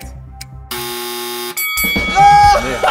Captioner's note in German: Buzzer, Glocke; Schadenfrohes Lachen